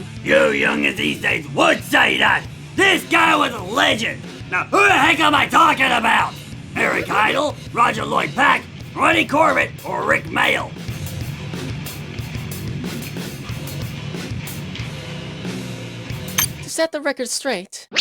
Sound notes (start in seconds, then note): none